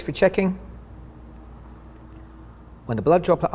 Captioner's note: meter beeps